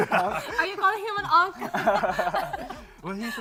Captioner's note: all laughing